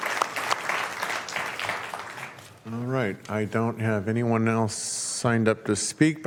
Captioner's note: applause